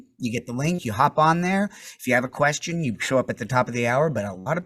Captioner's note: none